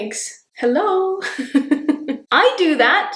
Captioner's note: chuckling